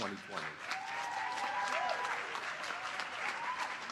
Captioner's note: applause